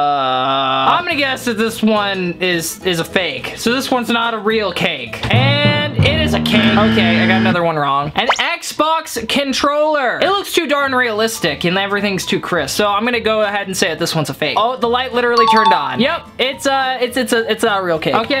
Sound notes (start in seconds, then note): 6.0 buzz sound